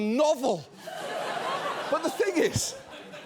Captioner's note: audience laughs